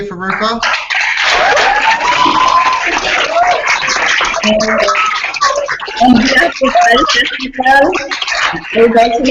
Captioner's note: applause